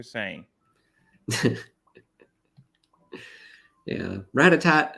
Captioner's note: laughs